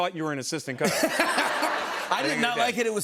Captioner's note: laughter